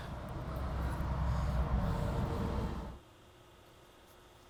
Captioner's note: traffic passes; machine hums